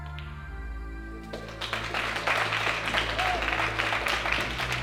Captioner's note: audience clapping